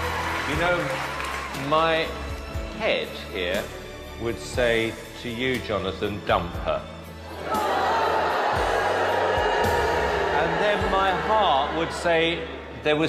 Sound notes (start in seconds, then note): 7.3 crowd boos